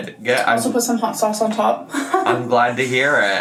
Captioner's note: laughs